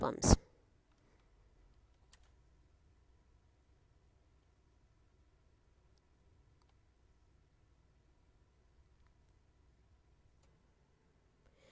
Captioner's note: silence